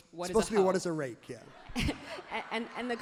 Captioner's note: everyone laughs happily